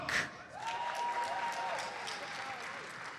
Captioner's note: audience cheers and applauds